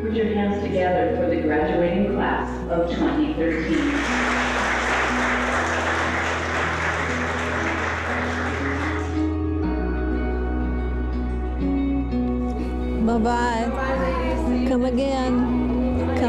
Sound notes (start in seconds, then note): 6.2 clapping